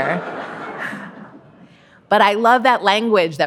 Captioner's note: audience laughing